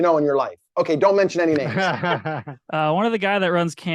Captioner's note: chuckling